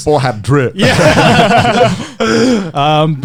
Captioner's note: laughing